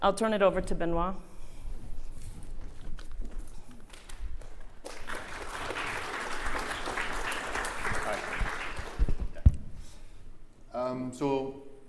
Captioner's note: applause